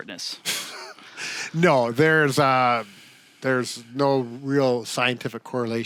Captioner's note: chuckles